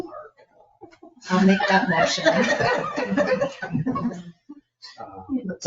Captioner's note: people chuckle